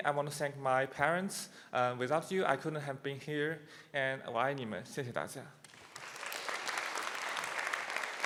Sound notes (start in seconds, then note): 4.7 speaking Chinese; 5.6 applause continues